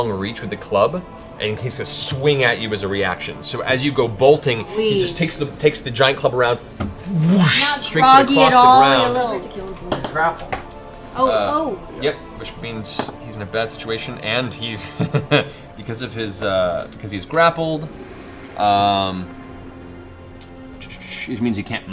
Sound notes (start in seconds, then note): 7.2 whoosh